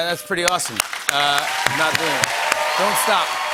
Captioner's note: cheers and applause